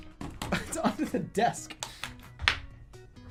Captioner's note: laughing